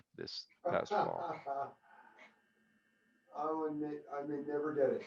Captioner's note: laughter